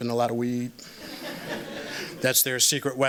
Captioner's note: laughter